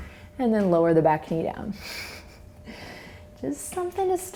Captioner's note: laughs